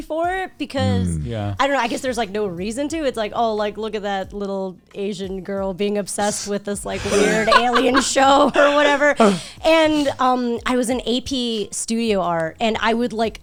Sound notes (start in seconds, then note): 9.2 group laughing